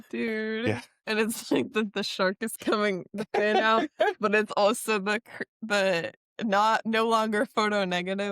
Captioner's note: laughter